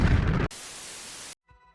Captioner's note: static